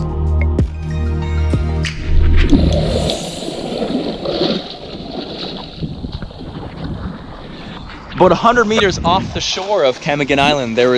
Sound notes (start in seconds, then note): 2.0 water flowing